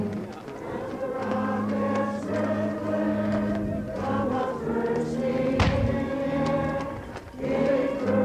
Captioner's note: cannon fire